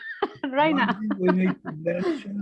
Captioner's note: chuckles